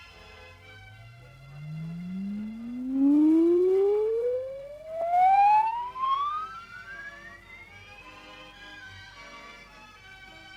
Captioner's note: audio tones, ascending in pitch